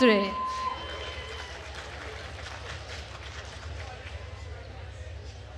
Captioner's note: attendees cheering and applauding